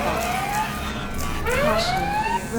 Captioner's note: alarm blaring